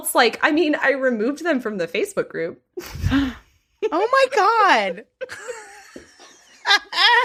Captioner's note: gasps; laughs